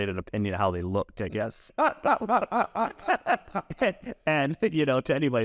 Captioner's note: laugh